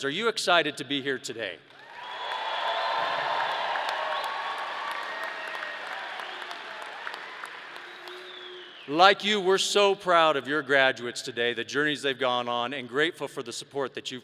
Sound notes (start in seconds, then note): 1.7 audience cheering and applause